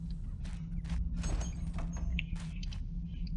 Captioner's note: door creaks open